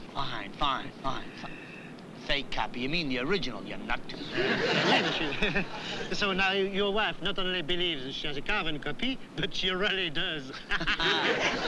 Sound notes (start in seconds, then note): 4.2 chuckles; 10.5 both laughing